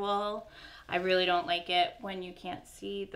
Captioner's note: none